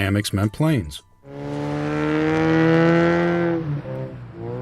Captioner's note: car racing